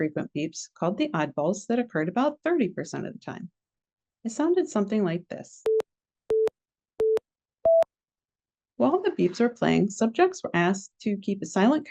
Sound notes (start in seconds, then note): 7.6 four beeps play